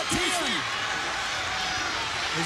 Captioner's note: crowd cheering